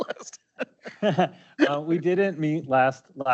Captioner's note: laughing